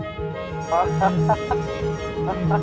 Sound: laughs

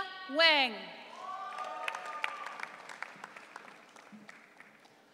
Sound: audience cheering

